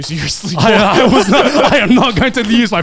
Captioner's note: speakers laughing